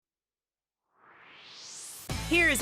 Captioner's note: swoosh